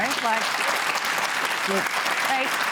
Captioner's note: applause